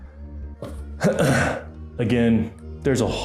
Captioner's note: throat clearing